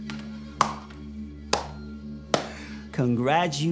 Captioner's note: hands smacking